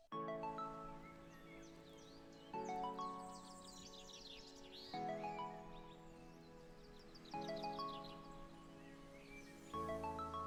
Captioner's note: birds chirping